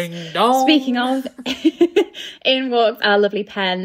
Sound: laughing

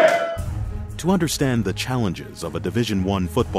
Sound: voiceover

